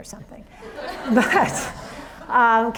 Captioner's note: audience laughs